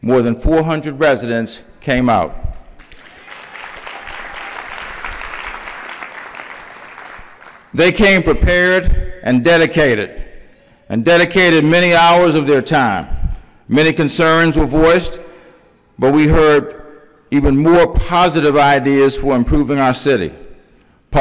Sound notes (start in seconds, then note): 5.0 applause